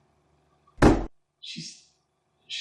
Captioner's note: thud